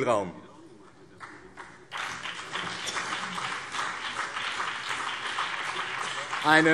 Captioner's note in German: Beifall BÜNDNIS 90/DIE GRÜNEN und CDU